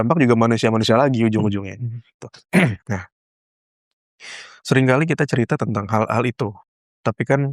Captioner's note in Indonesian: berdehem